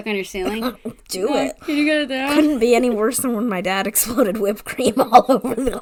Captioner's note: laughing